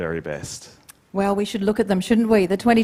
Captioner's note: none